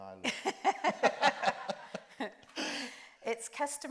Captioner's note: group laughs